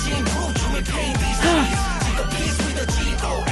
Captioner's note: gasp